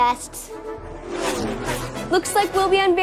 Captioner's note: dramatic music; racing cars whizzing